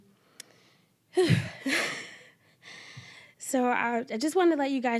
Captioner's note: nervous chuckling